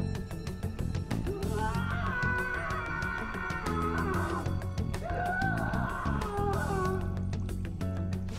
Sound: painful screams

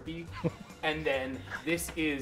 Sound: laughs

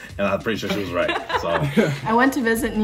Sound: participants laugh

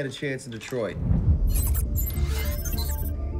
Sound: wind rushing; readout sliding and beeping; light electronic music

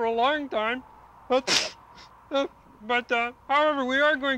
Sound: Kermit sneezes

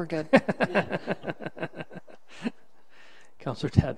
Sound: laughing

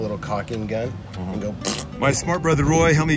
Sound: spitting

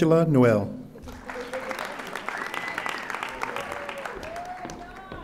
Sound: audience applauding

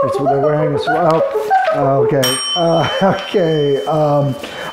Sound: box beeping; bell rings

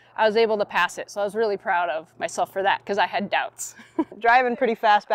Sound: laughs

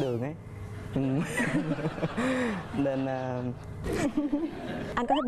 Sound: laughing

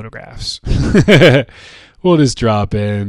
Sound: chuckles

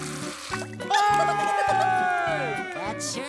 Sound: laughing

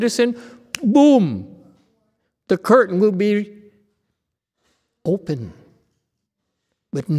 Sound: snaps fingers

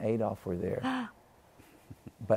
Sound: gasps

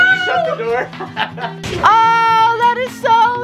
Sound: laughs

